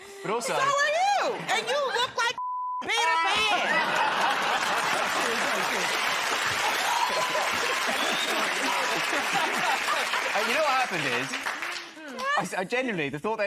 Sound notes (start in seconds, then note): 3.4 laughter; 6.7 cheers and applause